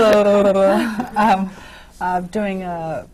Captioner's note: laughter